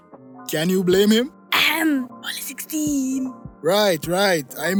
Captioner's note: ahem